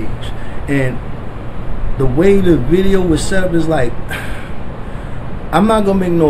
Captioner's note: sigh